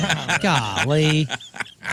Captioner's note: laughing